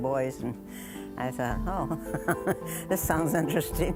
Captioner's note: laughing